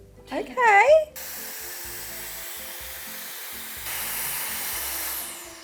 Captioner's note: hairdryer whirring